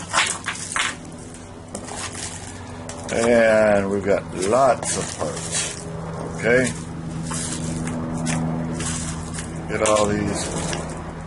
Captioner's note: airplane noise